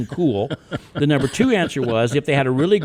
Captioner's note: guests laugh